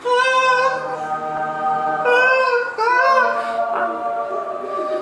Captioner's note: applauding playfully